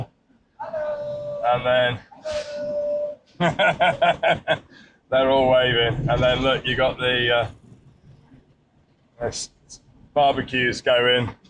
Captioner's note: laughter